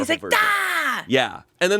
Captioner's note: yells